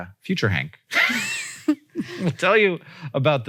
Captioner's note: Rachel and Hank laugh